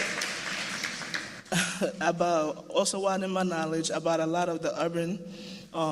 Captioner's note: cheers and applause